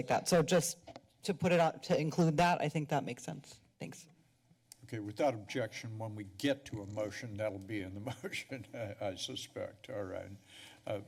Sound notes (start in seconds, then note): 8.5 laugh